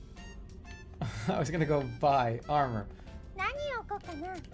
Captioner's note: chuckles